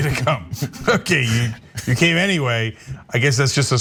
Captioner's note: laugh